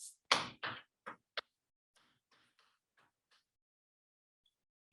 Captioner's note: chalkboard tapping loudly